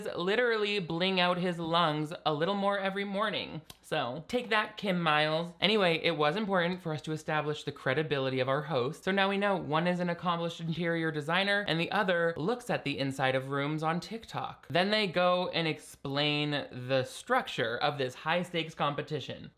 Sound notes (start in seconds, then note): none